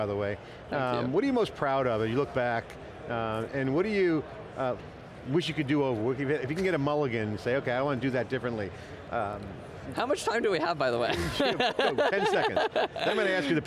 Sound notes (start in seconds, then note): 11.1 laughing